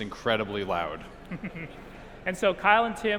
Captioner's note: chuckles